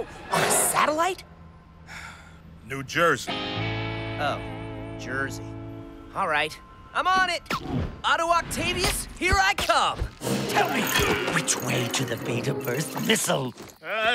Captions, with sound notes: On a satellite? [SIGH]. New Jersey. Oh. Jersey. All right. I'm on it. Otto Octavius, here I come. Tell me which way to the beta burst missile.